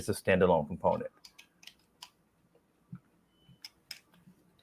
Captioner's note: clicking